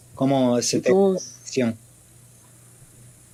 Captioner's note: speaks in French